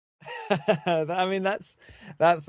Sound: laughs

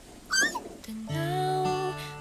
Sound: squeals

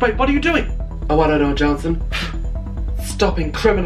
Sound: pff

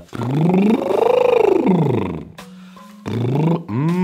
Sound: lip-trills

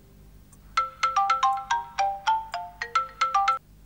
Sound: cellphone ringing

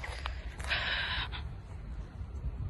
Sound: walking on gravel; sigh

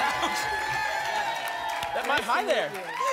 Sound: applause and cheering cont

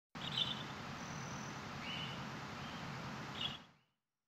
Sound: birds chirping

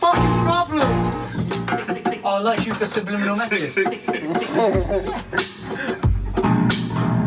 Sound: laughing

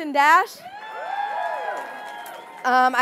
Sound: audience cheering

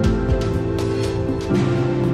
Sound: none

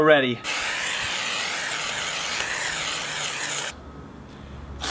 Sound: spray can hissing

